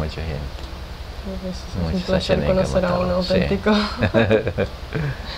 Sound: laught's

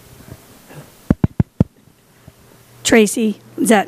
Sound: tapping on microphone

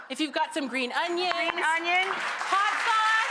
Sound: audience clapping

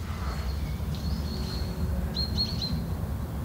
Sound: birdsong

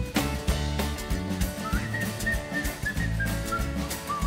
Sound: whistling

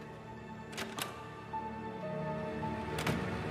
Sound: door opens and closes

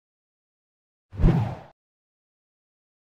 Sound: text whooshes

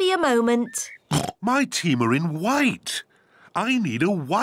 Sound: oinks

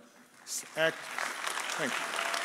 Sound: audience applauding

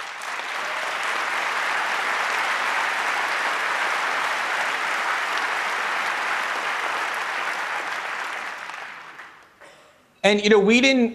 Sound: applause

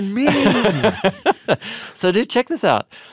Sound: laughing

